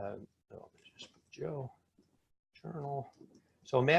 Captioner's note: speaking faintly